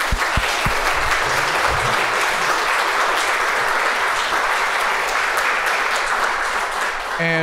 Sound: applause

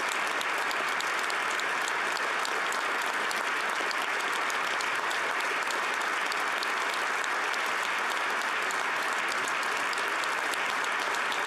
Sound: applause

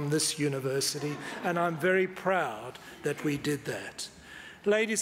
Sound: audience laughs

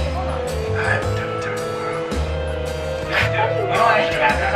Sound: themed music; party chatters

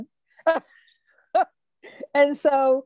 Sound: laughs

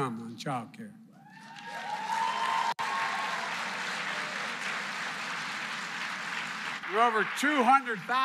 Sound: applause

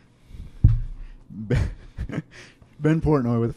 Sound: laughs

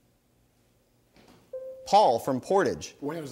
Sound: bell dings

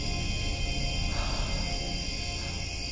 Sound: exhales

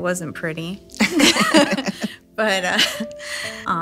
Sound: all chuckling

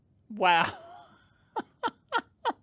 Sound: laughter

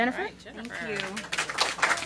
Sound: applause

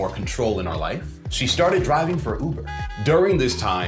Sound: car honks

